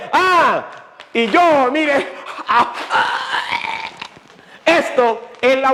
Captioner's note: argg